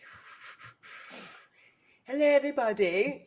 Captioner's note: person blowing